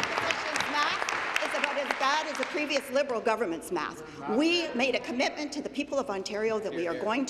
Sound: applause

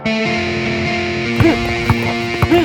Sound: ball bouncing sounds

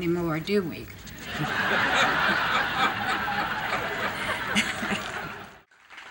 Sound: audience laughing; laughs

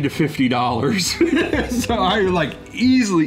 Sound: man chuckling

